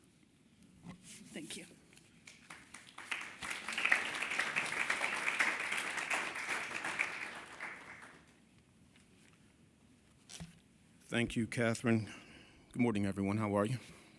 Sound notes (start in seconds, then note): 6.2 applause